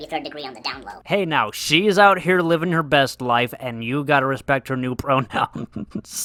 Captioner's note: laughs